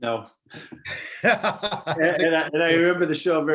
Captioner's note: laughing